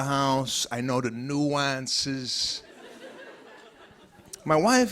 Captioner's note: laughter